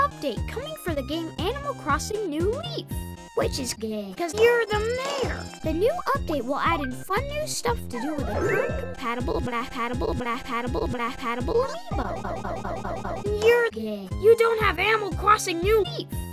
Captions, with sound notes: update coming for the game Animal Crossing New Leaf! which is gaaaaaaaaaaaaaaaaaaaaaay coz ur the mayor! da new update will add fun new stuff to do with a compatible bura hadible bura hadible amiibo *glitches* you are gaaaaaaaaaaaay you don't have Animal Crossing New Leaf!